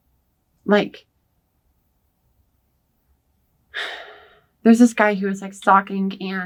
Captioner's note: sighs